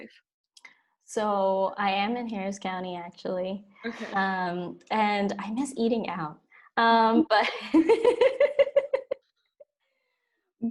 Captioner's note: laughs